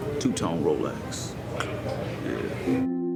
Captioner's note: clicks teeth